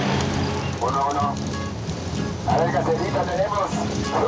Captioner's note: Spanish spoken audio